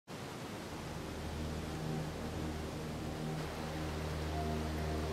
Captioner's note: waves crashing